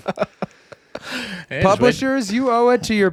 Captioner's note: laughing